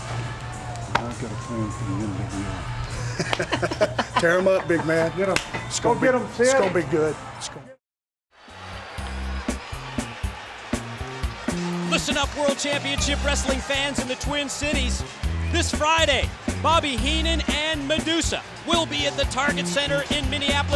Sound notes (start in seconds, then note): 11.8 crowd cheering